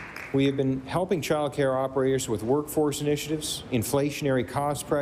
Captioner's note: applause